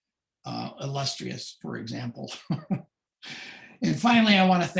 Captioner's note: chuckles softly